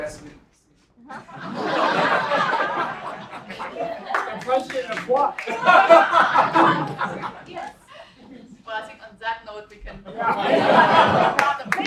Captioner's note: laugh